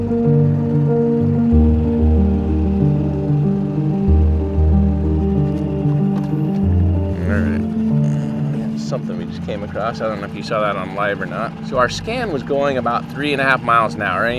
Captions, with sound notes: (boat whirring) (calm music) All right, something we just came across. I don't know if you saw that on live or not. So our scan was going about three and a half miles an hour.